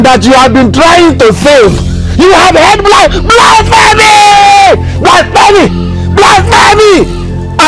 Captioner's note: screaming